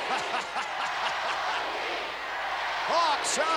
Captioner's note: Vince laughs